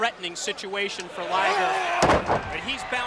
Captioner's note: Liger yelling and thudding